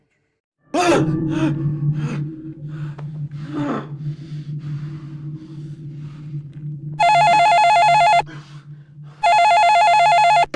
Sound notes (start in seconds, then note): 0.7 grunts; 0.7 screams; 6.5 phone ringing